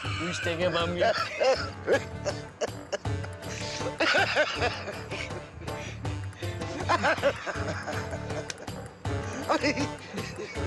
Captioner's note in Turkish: Gülme sesleri